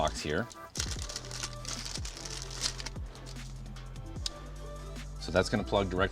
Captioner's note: upbeat music continues; plastic pouch squeaking